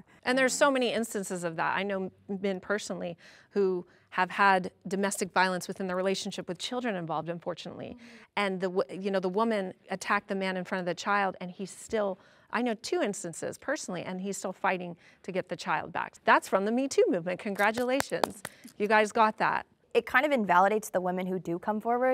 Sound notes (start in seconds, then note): 17.5 claps hands